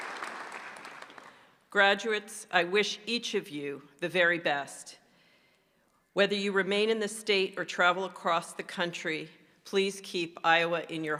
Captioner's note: applause